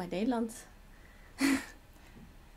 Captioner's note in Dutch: lacht